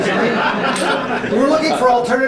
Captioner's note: laughter